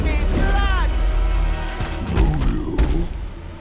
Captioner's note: dragon roaring